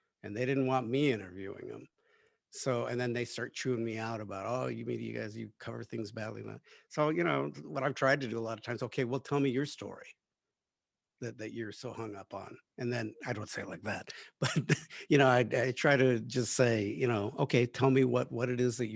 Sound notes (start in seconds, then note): 14.4 laughs